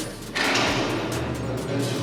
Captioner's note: door clangs shut